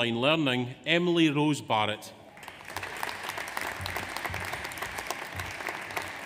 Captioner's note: audience applauds